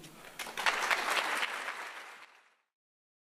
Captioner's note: clapping